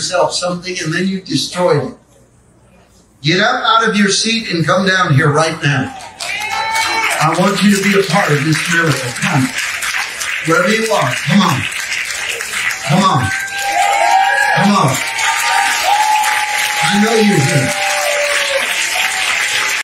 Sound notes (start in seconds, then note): 6.5 congregation amens; 13.3 congregation cheering and clapping